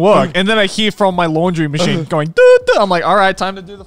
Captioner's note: beeps